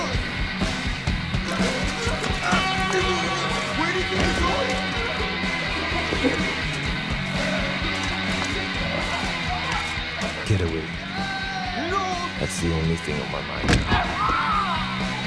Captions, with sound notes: (struggling) Where do you think you're going!? Get away. That’s the only thing on my mind now. (body falls)